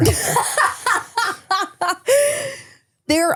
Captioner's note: laughs